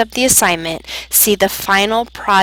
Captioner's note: Arabic; Vietnamese